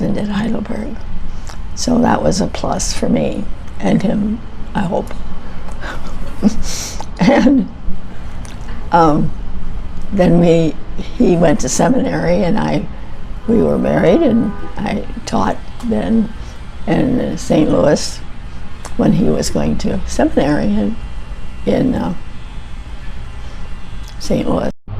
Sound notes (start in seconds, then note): 5.7 chuckles softly; 13.0 car horn